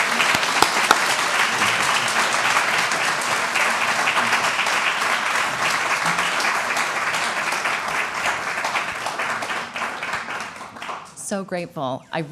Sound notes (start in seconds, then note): 1.6 applause